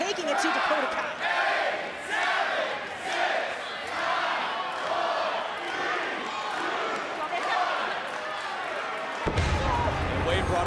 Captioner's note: crowd counts down